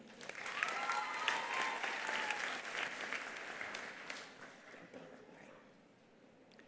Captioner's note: attendees applauding; attendees cheering